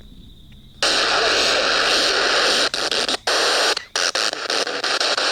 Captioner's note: loud static electric noise